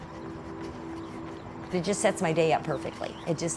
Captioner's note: jogger running